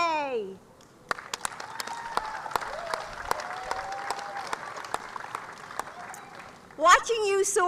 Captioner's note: applause